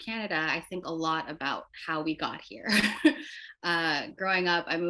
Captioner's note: laughs